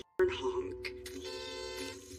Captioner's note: hororn honking